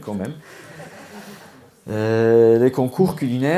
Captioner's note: laughs